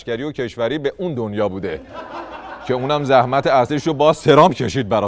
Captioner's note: laughter